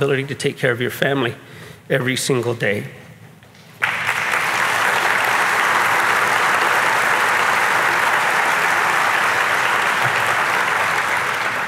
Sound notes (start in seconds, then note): 3.7 audience clapping